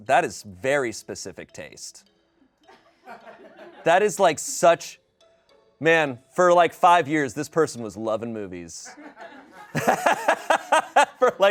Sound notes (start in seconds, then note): 2.7 people laugh; 9.0 everyone laughs